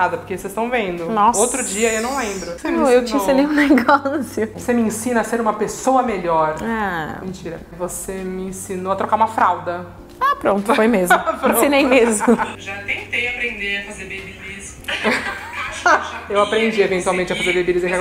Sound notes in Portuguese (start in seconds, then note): 14.8 risos